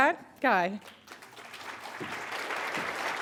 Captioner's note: applause